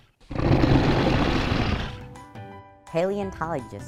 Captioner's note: dinosaur growls